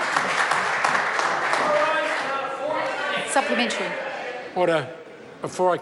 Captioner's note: members applaud